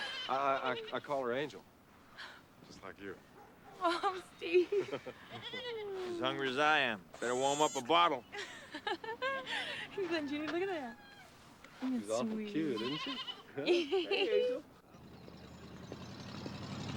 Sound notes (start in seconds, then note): 4.6 chuckles; 8.4 laughs; 14.2 dyna chuckles